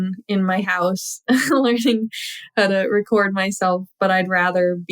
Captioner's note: laughter